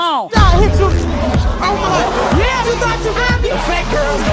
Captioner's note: people yelling